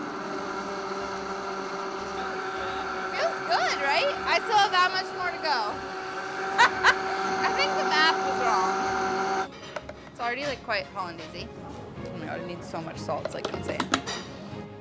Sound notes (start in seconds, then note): 6.4 laughs